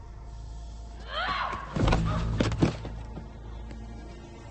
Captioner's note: Lily screaming